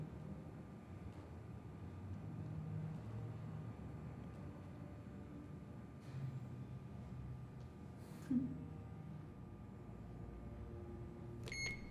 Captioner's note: beeping